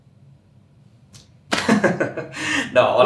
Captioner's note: laughs